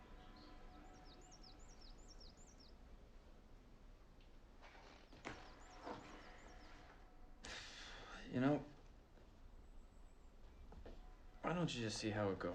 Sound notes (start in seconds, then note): none